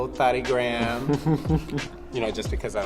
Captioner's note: Keiynan chuckling